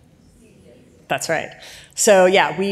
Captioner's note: audience mumbles